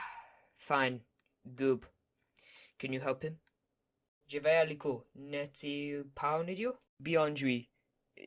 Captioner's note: dramatic sigh